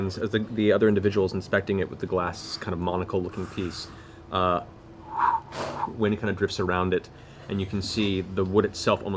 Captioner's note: whoosh